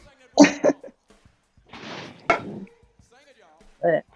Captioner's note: laughter